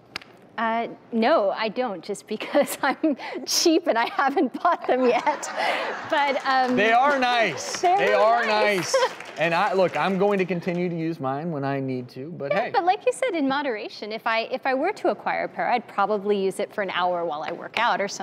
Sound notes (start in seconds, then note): 4.9 audience laughs; 6.0 audience applauds